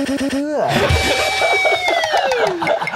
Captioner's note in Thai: หัวเราะ